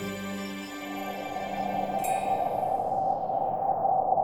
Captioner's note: wind howling